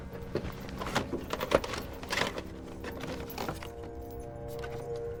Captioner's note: tapes rattle